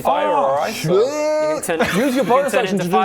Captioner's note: dumb noises